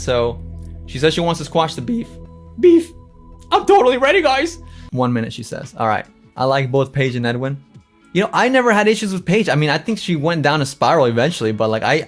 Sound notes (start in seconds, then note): 1.8 voice crack